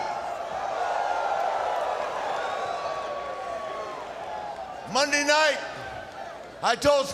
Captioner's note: crowd cheering